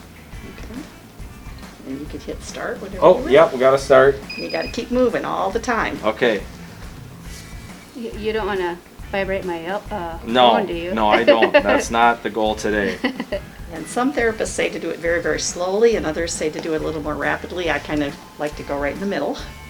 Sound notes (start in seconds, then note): 11.0 laughter